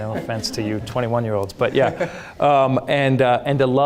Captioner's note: audience laughing